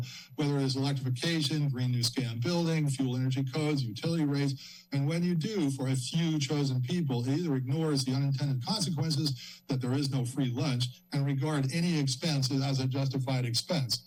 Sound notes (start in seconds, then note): none